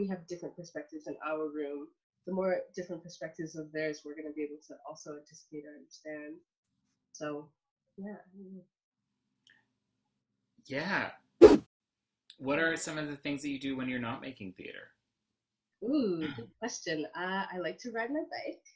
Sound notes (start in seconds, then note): 11.4 whoosh